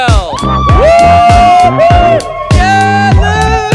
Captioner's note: all cheering; upbeat music